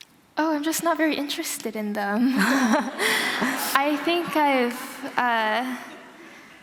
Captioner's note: laughter